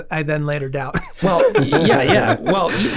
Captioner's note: group laughs